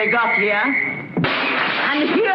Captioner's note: glass smashing